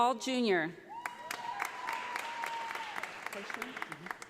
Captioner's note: audience applauding